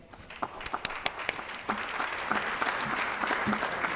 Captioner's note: applause